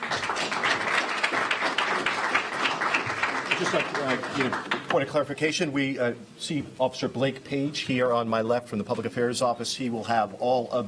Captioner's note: applause